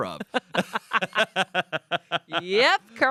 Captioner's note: everyone laughs